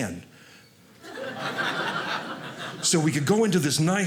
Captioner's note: audience laughing